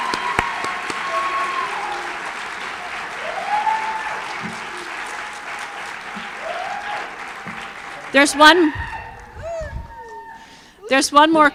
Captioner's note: cheers and applause